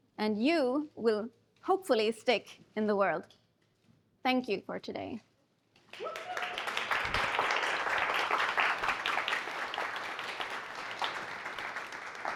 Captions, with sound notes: And you will hopefully stick in the world. Thank you for today. [APPLAUSE]